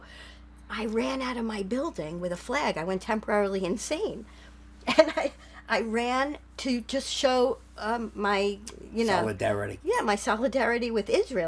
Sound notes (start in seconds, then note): 4.9 laughing